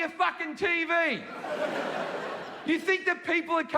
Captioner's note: audience laughing